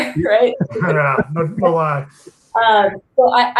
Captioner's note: laughs